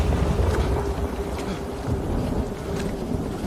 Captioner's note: rocks sliding